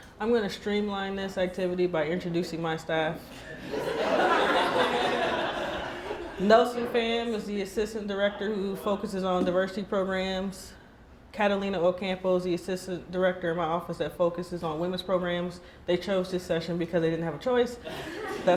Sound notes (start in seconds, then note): 3.4 laughing